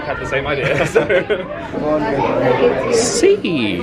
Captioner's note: they laugh